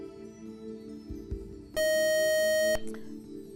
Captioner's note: beep